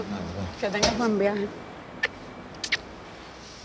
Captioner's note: speaking Spanish